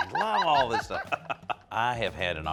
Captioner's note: laughter